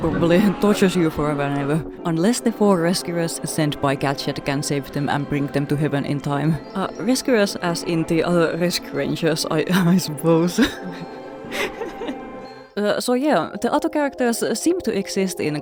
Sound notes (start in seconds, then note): 12.0 laughing